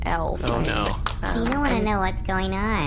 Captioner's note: Pleck makes unhappy noises; Beano running sounds